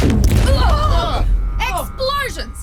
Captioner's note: alarms blare